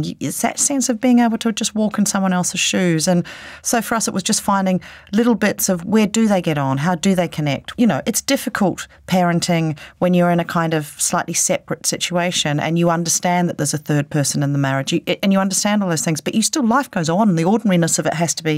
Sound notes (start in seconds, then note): none